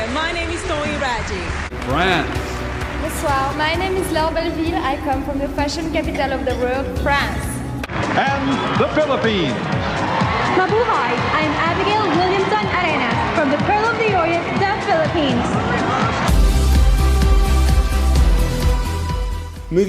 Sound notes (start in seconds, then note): 9.8 crowd cheering and applauding; 16.4 upbeat music